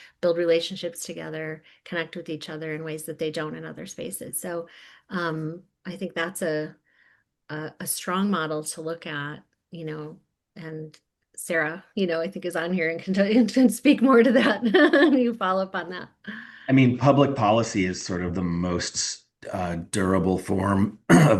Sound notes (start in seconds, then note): 14.2 laughing